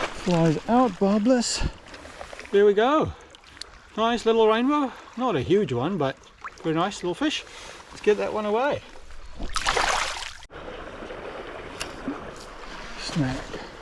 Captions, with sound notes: Flies out, barbless. There we go. Nice little rainbow. Not a huge one, but a nice little fish. Let's get that one away. [WATER SOUNDS] Snack.